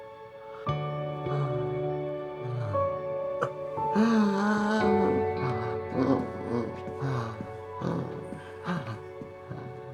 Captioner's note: Florio inhales and breathes heavily